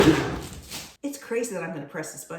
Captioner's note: kitchen explosion